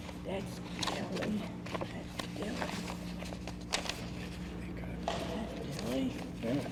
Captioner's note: speaks faintly